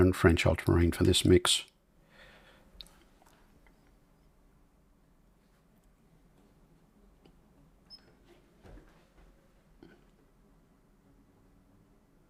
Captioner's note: silence